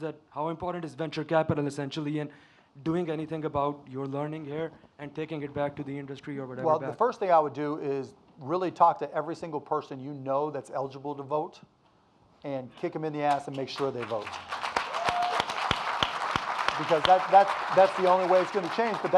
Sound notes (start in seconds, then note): 13.8 audience applauding and cheering